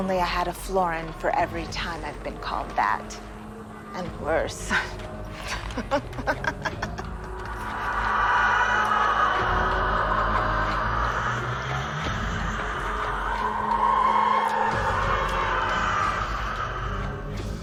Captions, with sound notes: If only I had a florin for every time I've been called that and worse. (laughs) (quiet suspenseful music) (revenants moaning)